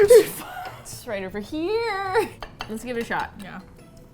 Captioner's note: dishes clatter; singsong